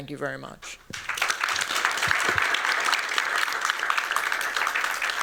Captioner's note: applause